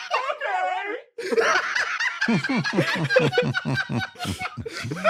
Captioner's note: laugh